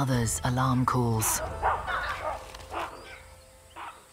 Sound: monkeys barking

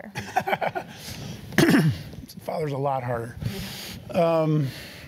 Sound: laugh

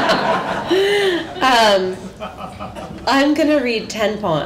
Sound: laughter

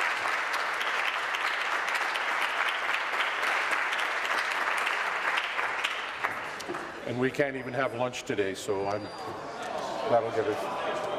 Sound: applause

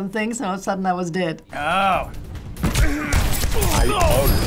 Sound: firing weapon

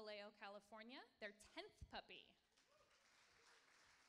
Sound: applauding

